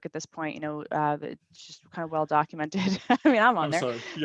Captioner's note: chuckles